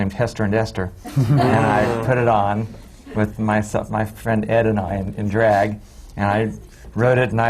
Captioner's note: laughter